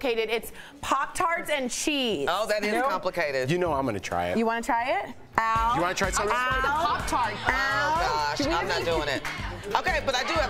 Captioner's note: laughter